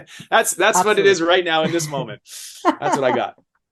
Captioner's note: laughing